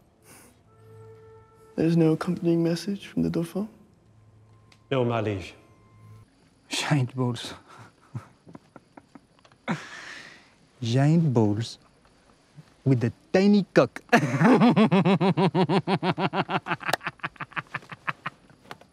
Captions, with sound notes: There is no accompanying message from the Dauphin? - No, my liege - Giant balls. (giggles) Giant balls, with a tiny cock. (laughs)